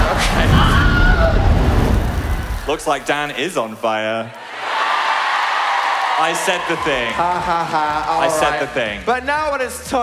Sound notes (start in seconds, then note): 0.4 shrill scream; 5.2 audience laugh